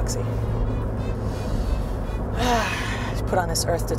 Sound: sigh

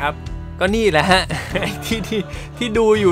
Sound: laugh

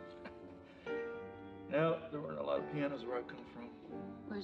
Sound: chuckles

